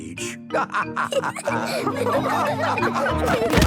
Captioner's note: all laughing